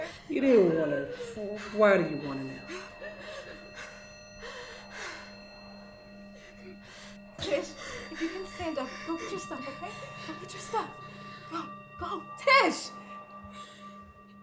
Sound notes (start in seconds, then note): 3.0 Tish panting